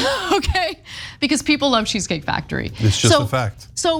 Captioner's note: laugh